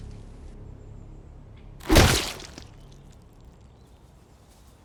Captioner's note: squelch